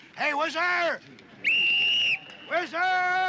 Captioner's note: blowing